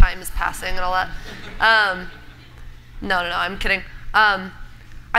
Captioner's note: laughter